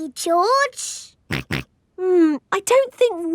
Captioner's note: snorts